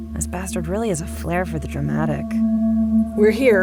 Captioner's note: none